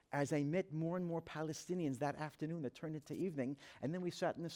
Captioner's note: none